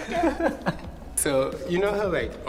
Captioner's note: Keiynan laughing